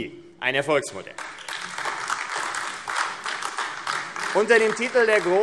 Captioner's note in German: Beifall AfD